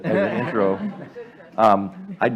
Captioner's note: laughter